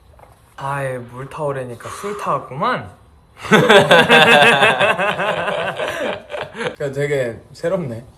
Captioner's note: laughs